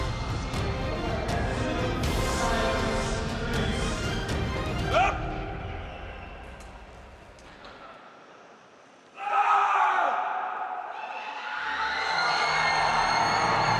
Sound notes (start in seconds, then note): 4.7 yelps; 9.1 screams; 11.7 cheering